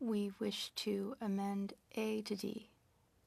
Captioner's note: speaking French